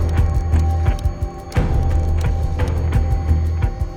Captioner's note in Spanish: Sonido al discar